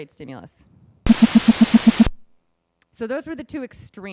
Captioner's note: beeping